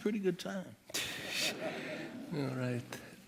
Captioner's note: laughter